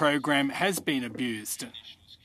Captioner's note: speaking French